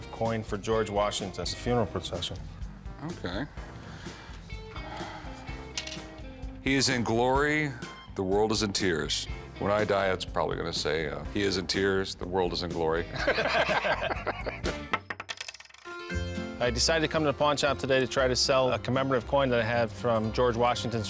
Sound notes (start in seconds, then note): 3.5 exhales; 3.6 coin clatters; 13.1 both laugh; 14.9 coin clatters